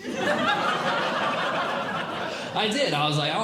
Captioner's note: audience Laughing